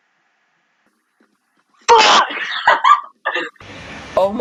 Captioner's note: laughing